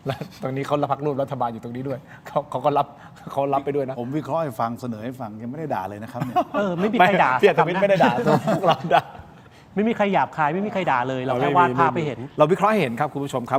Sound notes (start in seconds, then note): 7.8 laughter